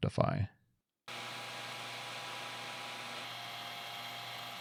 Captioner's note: machine whirring